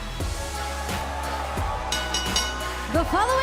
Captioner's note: bell ringing